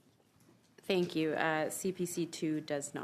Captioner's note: speaking French